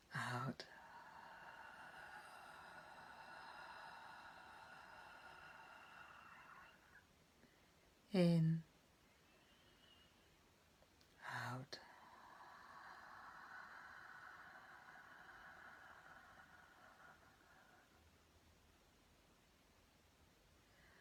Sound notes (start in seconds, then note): 0.1 exhaling; 9.1 inhaling; 11.8 exhaling